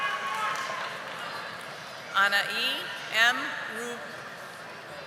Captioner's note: audience cheering